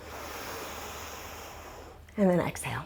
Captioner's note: deep breathing sounds